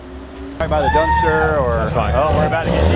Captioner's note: screaming